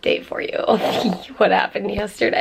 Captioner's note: snorts